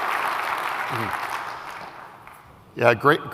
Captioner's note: applause